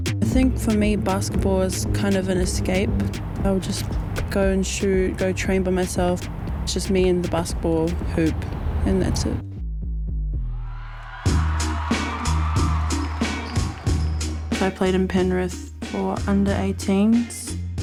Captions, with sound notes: - I think for me, basketball is kind of an escape. I'll just go and shoot, go train by myself. It's just me and the basketball hoop, and that's it. (people cheering) (hip hop beats) I played in Penrith for under-18s.